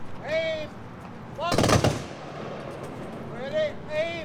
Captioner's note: guns firing